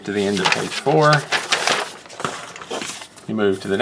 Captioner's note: paper rustling